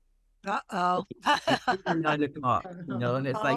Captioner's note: laughs